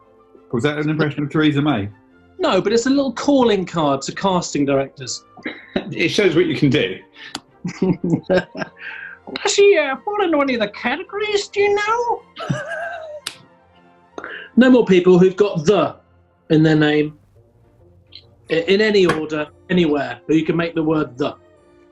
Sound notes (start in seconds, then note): 7.6 chuckling; 9.2 exaggerated voice